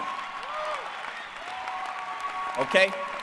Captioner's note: applause